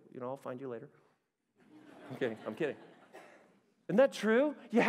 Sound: laughter

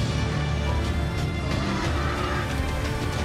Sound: kraken roars

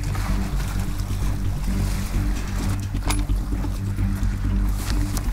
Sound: water sloshing; tense music

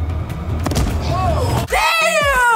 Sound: bodies thumping

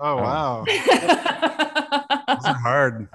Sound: laughing

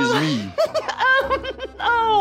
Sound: giggling

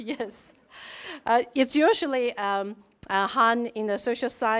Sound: laugh

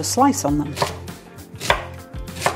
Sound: chop chop chop

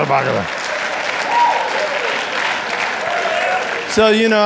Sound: audience applauding

